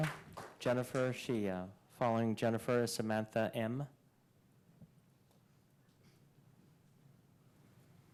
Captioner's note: applause